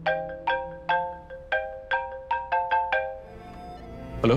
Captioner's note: Phone ringing